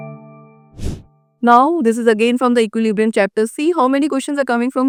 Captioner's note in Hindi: नाक से की जाने वाली आवाज़